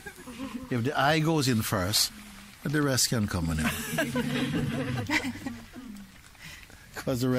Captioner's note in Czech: smích